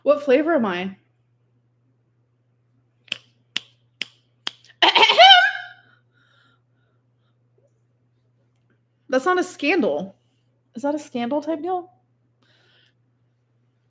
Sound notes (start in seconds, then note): 4.4 fingers snapping; 4.8 coughing